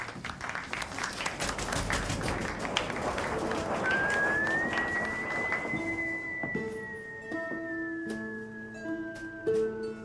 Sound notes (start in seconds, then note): 0.0 applause; 1.8 drum roll; 3.8 continuous whistle